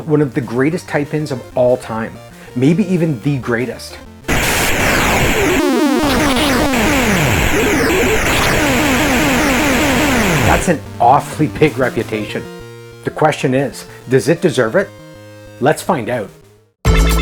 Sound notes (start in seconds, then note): 4.2 vintage video game sounds